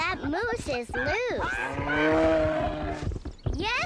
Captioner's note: grunting